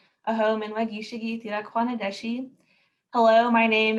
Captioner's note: speaking in foreign language